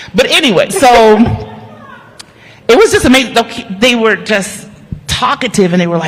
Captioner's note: laughter